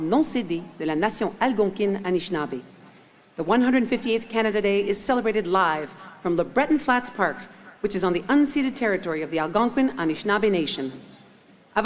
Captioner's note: speaking French